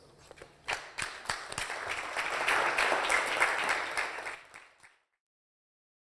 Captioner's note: applause